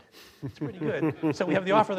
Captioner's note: laughing